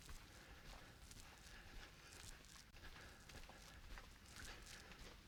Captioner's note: footsteps